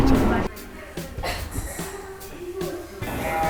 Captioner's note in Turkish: Öksürme Sesi